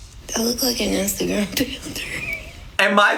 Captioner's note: laughs